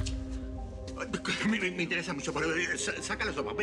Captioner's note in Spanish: Tartamudea